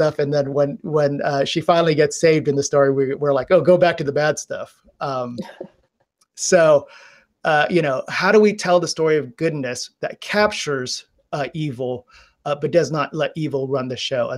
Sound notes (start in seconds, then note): 5.4 laughing